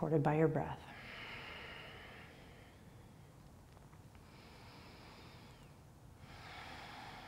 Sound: exhaling and inhaling

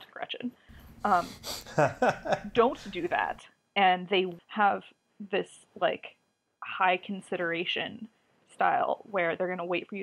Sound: laughs

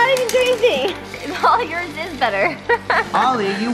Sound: laughs

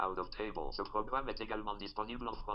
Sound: speaking french

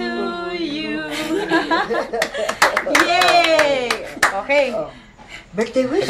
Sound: laughter; cheering

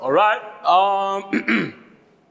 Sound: clear throat

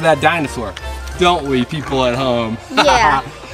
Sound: laughs

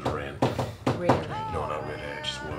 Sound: knocks rythmically

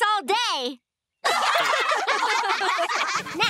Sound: laughing

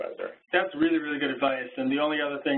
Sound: voiceover

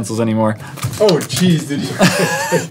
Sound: giggles

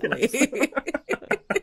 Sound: group laughing

